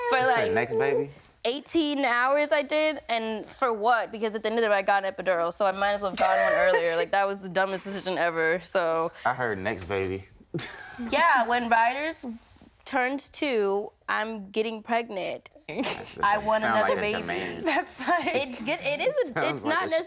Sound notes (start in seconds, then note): 6.2 laughs; 10.5 laughs; 18.0 laughs